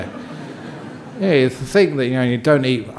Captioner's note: laughter from the audience